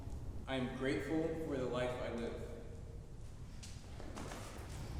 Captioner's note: offscreen voice